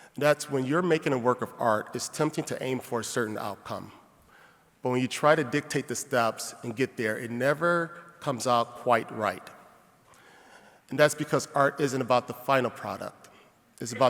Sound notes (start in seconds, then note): none